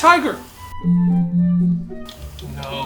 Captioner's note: phone buzzing